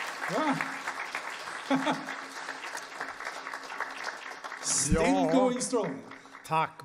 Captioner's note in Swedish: applåder